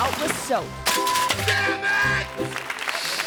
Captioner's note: audience claps and cheers; beep